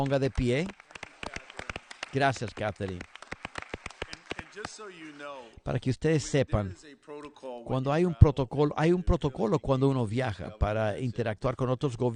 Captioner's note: applause